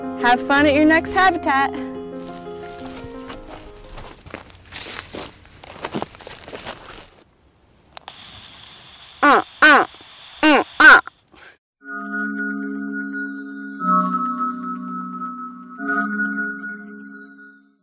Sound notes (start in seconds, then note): 9.2 baby alligator call; 11.8 fairy dust sound effect